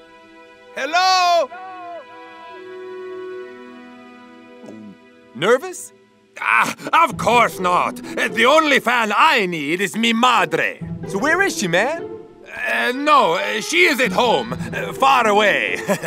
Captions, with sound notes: - Hello. (voice echoes) - Nervous? - Of course not. The only fan I need is mi madre. - So, where is she man? - No, she's at home, far away.